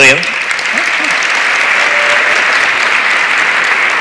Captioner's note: audience applauds